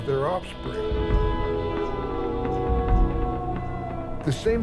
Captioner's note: wolf howls